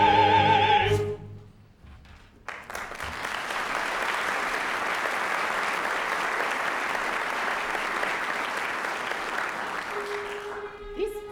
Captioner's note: applause